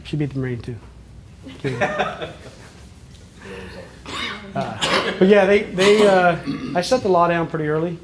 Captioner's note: laughter